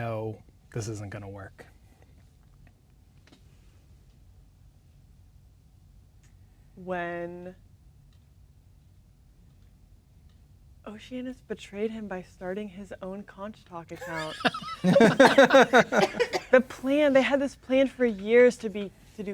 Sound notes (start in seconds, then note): 14.0 players laughing